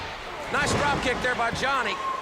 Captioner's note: crowd chatter